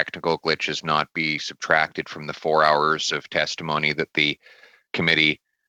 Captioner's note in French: voix de l'interprète